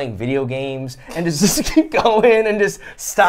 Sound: laughs

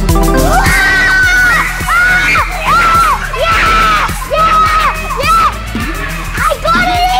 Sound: kids screaming in excitement

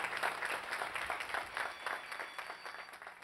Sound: applause

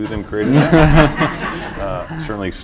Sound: laughter

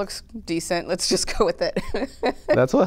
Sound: laughter

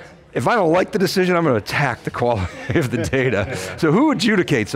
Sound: laughing

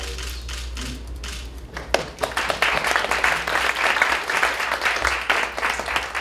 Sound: applause

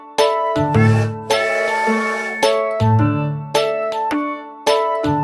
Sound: train toots

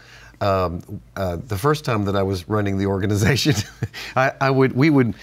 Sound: chuckle

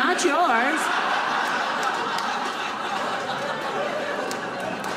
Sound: audience laughing

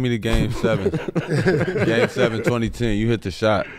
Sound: laughing

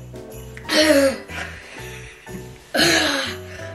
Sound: coughs

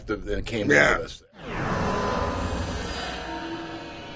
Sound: swooshing

